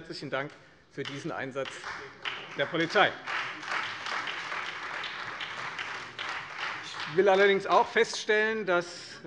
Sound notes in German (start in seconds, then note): 3.3 Beifall Freie Demokraten und SPD